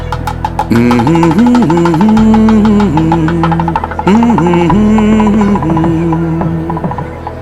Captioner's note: hums a romantic song from the movie 'Nammal'